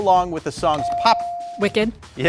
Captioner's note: buzzer dings